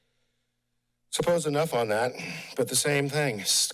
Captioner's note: pause; sighs